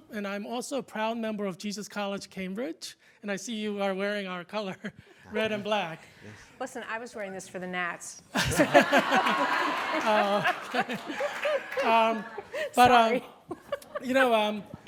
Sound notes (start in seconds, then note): 8.3 group laughter